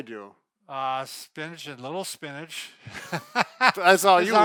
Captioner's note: laughs